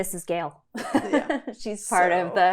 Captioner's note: laughs